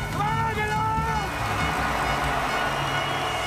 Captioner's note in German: Lauter Jubel vom Publikum